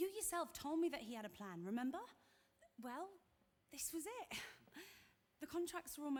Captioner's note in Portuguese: none